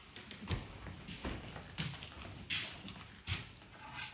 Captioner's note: footsteps thumping